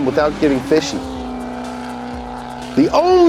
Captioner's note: car engine roaring